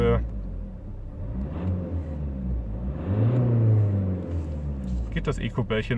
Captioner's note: howling of the engine